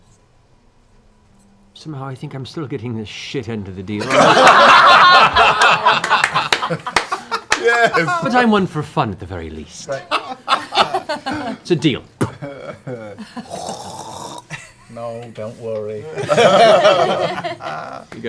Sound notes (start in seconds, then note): 4.0 laughter and applause; 13.4 spits loudly; 16.1 laughter